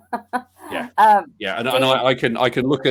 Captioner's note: laughs